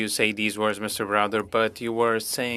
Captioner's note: speaking French